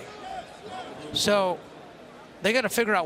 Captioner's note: crowd cheering